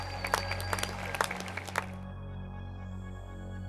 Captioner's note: cheers and applause